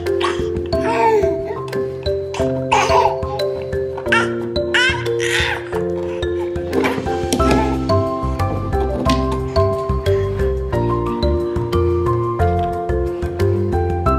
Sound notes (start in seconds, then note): 1.0 baby laughing; 7.0 playful music